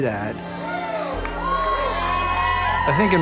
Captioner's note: cheering